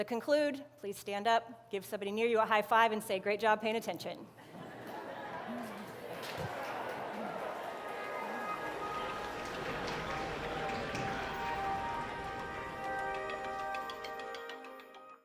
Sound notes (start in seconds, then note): 4.4 laughter and chatter; 7.8 light music